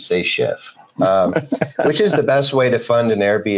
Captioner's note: laughing